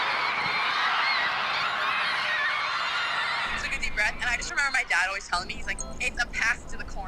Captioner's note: cheers and applause